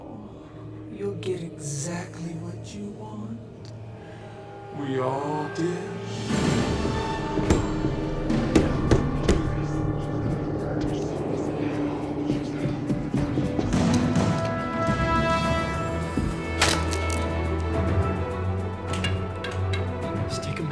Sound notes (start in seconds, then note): 7.6 door banging; 7.6 intense music; 11.2 voices whispering; 13.1 footsteps thudding; 14.6 intense dramatic music; 16.3 sticks snaps; 18.5 intense dramatic music